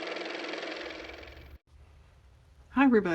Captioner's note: car motor